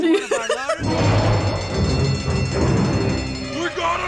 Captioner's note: ominous music; alarm ringing